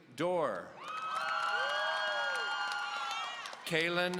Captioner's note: audience cheering